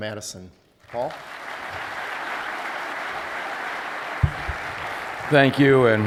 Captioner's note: applause